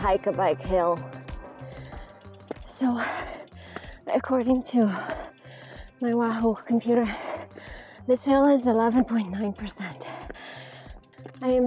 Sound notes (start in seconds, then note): 1.2 gasping for air